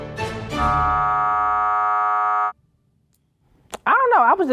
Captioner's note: buzzer sounding